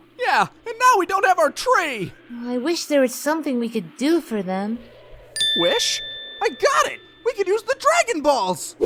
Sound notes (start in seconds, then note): 5.3 lightbulb sound effect